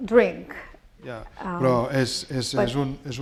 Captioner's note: speaking spanish